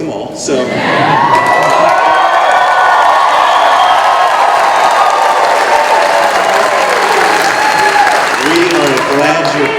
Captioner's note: cheering